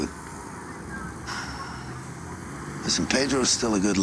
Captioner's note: sighs